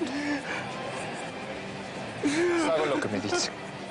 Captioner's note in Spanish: Sollozos